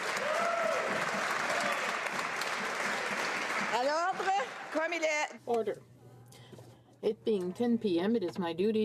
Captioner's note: cheering and Applause